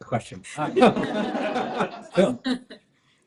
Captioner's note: laughter